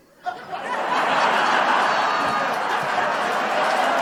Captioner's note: laughter/Applause